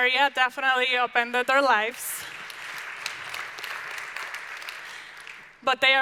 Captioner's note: audience applauding loudly